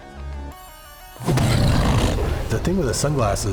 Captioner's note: growls